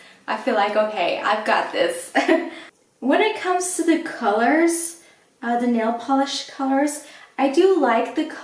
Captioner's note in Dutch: lacht